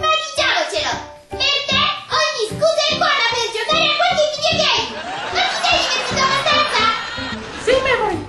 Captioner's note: laughter